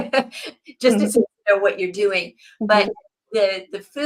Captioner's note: laughs